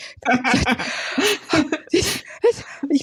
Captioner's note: both laugh